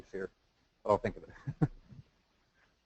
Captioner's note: laugh